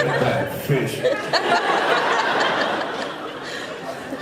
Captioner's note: laughs